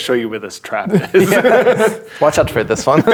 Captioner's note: players laughing